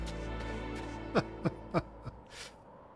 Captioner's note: laughs